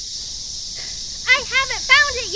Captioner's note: sighs